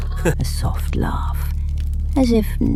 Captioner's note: A soft laugh